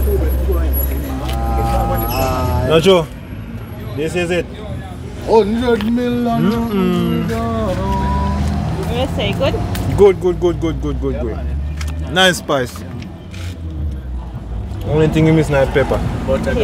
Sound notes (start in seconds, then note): 0.0 background conversation; 6.3 sounds of approval